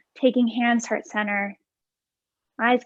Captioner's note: none